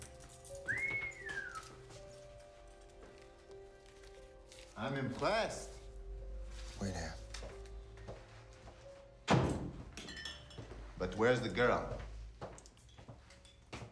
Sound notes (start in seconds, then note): 9.3 door slams